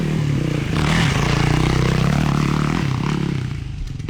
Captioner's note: engine revving